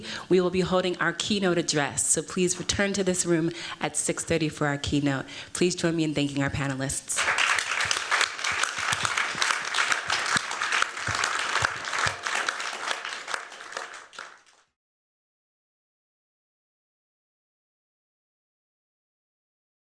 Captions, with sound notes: we will be holding our keynote address. So please return to this room at 6:30 for our keynote. Please join me in thanking our panelists. [APPLAUSE]